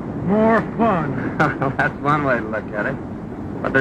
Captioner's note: laughs